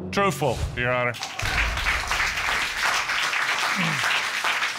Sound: applause

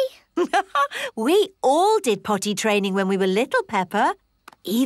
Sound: laughs

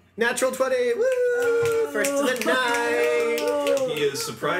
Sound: snaps

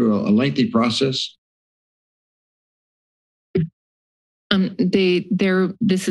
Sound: silence

